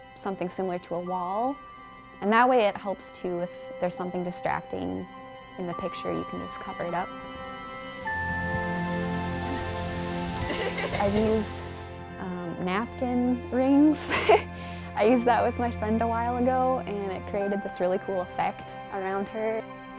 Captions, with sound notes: something similar to a wall. And that way, it helps too with if there is something distracting in the picture, you can just cover it up. (light soaring music) (both chuckle) I've used napkin rings (chuckles). I used that with my friend a while ago, and it created this really cool effect around her.